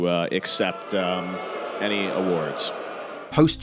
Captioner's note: audience booing